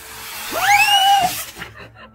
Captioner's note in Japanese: 叫び声